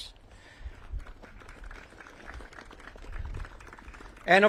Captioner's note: audience claps